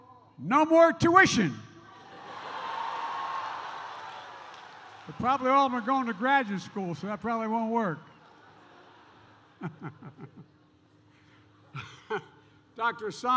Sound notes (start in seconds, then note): 2.0 laughter and applause; 8.4 laughs